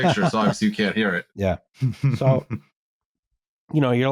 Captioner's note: chuckles